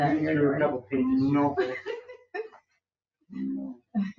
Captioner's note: people chuckle